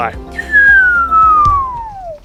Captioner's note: descending whistle